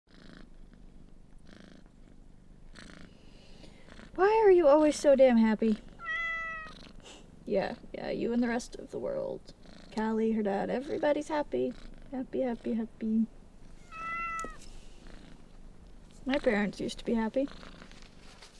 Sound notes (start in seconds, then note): 0.0 purrs; 6.0 meows; 13.8 meows